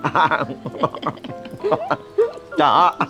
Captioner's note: both laughing